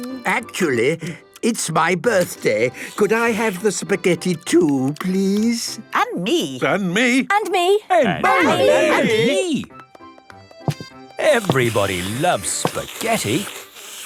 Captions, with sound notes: - Actually, it's my birthday. Could I have the spaghetti too, please? - (calling out in turn) And me! And me! And me...! - Everybody loves spaghetti.